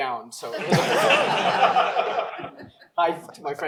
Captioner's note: laughter